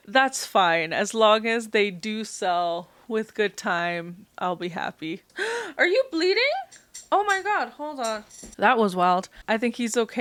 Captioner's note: gasp